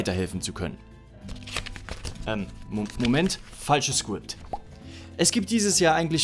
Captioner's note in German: Umblättern